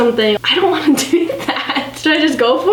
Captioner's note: laughs